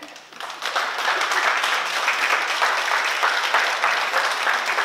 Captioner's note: oklaski